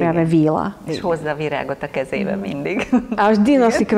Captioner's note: laughing